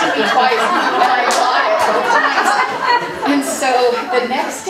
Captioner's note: audience laughing